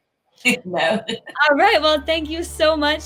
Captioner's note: laughing